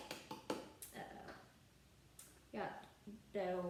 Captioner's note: hand hitting bottom of the cup